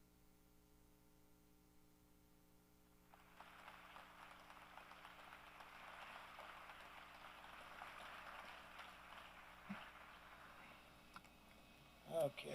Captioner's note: applause